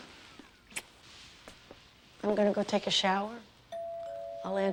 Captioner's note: doorbell rings